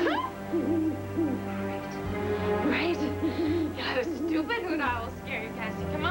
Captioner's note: owl hoots